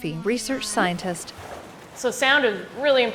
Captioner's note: water splashing